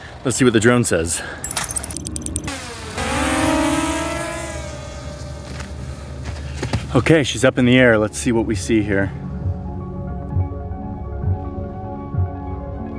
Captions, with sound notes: Let's see what the drone says. (drone humming) Okay, she's up in the air. Let's see what we see here. (lighthearted music)